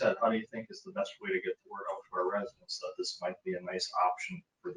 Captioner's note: speaking faintly